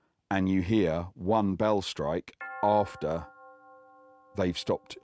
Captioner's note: bell tolls